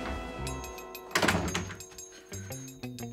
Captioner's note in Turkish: Kapı kapanma sesi